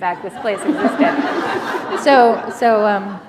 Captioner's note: laughter